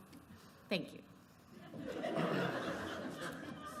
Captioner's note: laughter